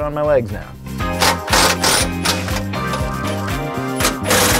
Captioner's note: drilling loose